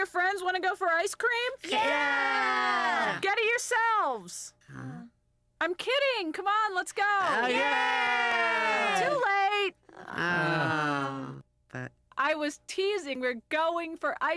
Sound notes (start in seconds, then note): 7.4 all cheering; 9.9 all moaning